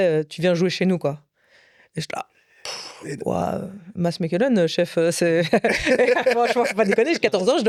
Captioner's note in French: rires